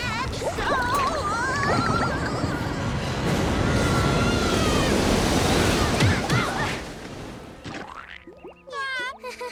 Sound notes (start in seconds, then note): 2.4 kids screaming; 2.4 water rushing; 9.2 awkward laughing